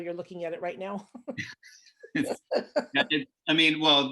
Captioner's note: laughs